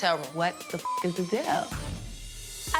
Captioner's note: beep